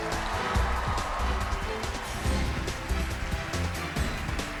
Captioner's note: cheers and applause